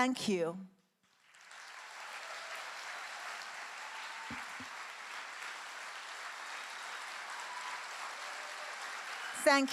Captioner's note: clap with cheering